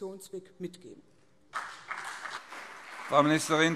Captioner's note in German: Beifall CDU und BÜNDNIS 90/DIE GRÜNEN